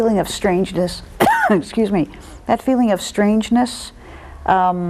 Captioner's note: coughs